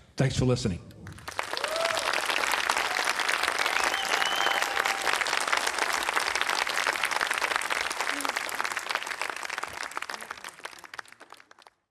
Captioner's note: audience cheering